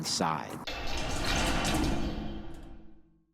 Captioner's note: doors slamming